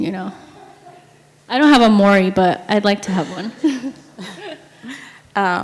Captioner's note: laughs